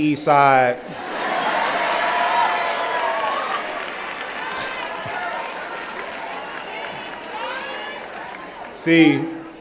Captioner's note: cheering